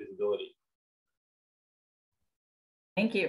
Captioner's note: silence